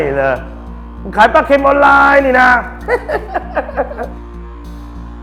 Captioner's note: laugh